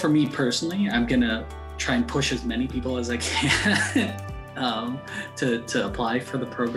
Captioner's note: chuckles